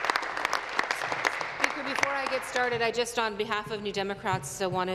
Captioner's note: applause